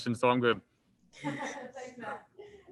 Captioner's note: woman chuckles